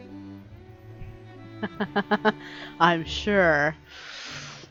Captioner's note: laughs